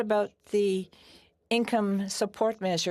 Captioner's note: speaking French